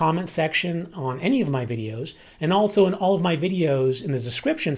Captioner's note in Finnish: englanniksi